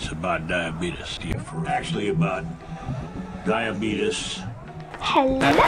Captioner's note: hypnotic noises